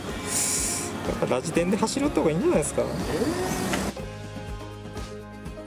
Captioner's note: laughs